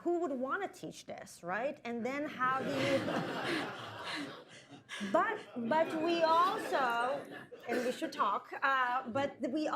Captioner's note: laughter